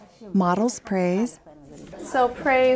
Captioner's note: voiceover